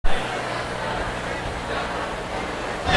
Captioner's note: chatter